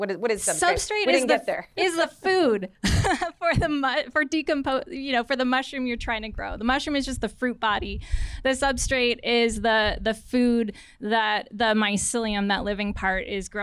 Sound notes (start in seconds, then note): 2.8 laughter